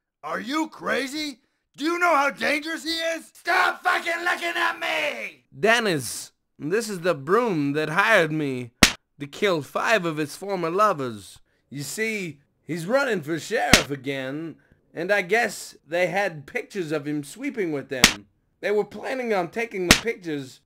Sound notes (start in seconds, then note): 8.8 smack